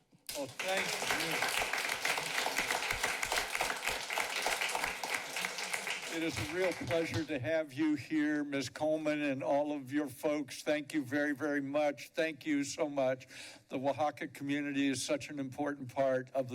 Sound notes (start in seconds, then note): 0.2 applause